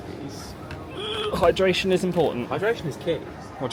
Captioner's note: groans